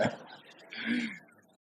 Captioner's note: laughter